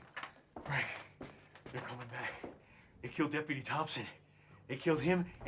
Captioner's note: panting